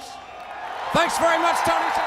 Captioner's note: crowd cheering